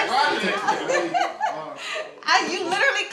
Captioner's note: laughs